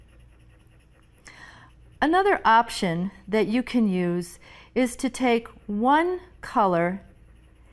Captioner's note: pencil scratching